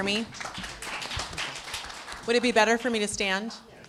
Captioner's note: applause